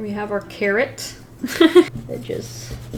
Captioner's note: laughs